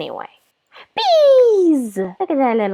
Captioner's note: gasp